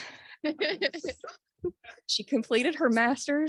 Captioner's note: laughs